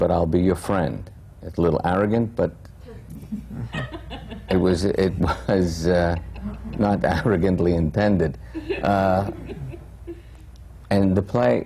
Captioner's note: laughs